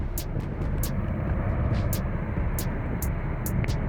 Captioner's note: wind and volcano sounds